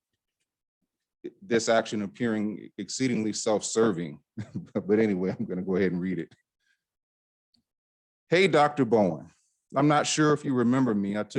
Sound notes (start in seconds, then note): 4.4 chuckle